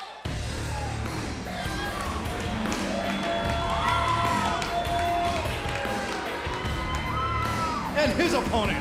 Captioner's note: crowd cheering